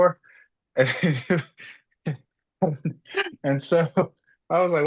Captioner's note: laugh